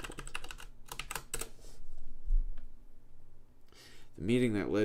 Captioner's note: keyboard clicking